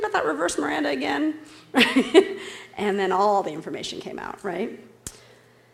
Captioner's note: laughs